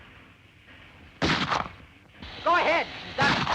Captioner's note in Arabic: طلقات نارية; طلق ناري